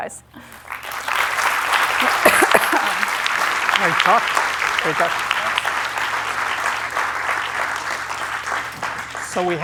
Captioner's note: applause